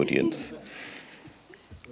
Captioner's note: chuckles